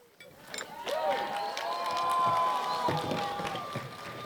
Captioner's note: crowd cheers